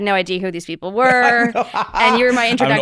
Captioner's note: laughing